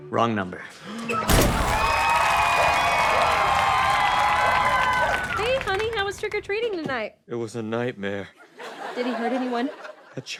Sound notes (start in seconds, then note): 0.0 exhales; 1.2 gasps; 1.2 zapping noise